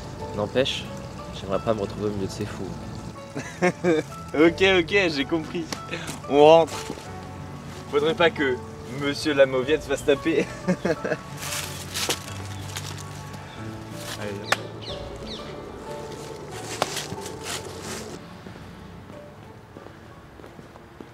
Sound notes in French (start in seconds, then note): 3.3 Rire de Mad; 10.4 Rire de Mad